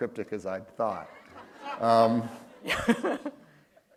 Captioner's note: laughter